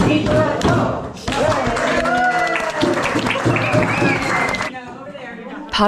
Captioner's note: applause